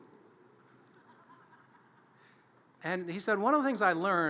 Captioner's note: audience laughter